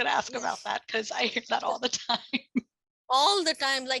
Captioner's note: laughs